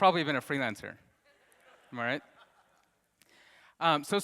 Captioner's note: audience laughs